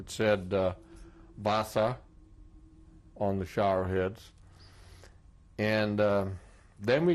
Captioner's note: german